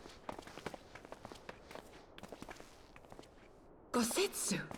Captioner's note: footsteps